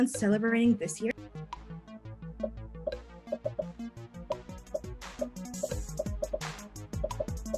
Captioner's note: popping; upbeat music